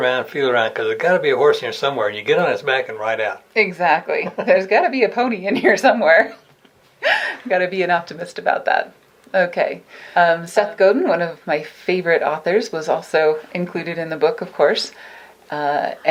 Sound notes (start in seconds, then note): 7.0 laughing